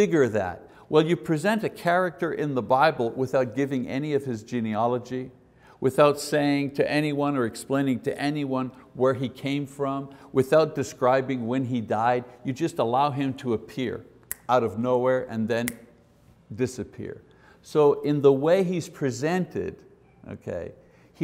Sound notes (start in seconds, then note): 14.2 snaps